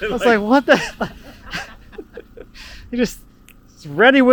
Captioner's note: laughing